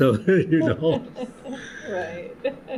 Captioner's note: laughter